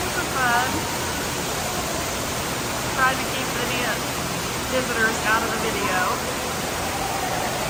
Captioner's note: sound of water running and echoing in the space